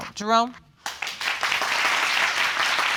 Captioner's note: audience clapping